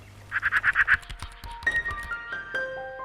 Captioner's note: bird chirping; gentle music